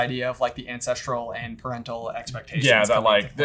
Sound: murmurs

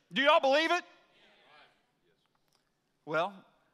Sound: congregation chatters in assent

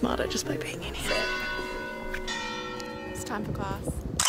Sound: bells ringing

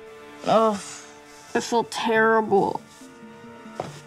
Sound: groans

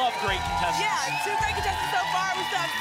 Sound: applause and cheering

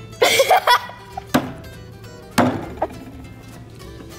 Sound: laughs

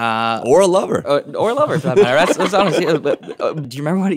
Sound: laughing

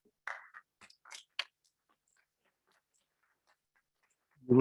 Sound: audience clapping

